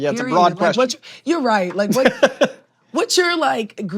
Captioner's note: laughs